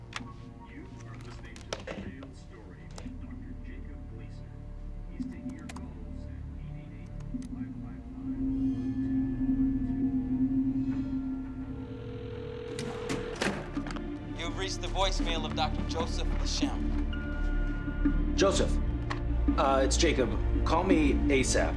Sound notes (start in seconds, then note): 8.2 mysterious music playing; 11.9 line ringing; 16.7 line beeps